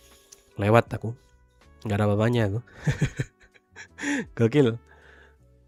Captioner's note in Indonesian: tertawa